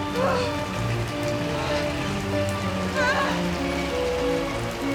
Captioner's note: Lilly gasping deeply